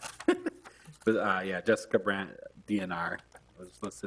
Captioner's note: laughing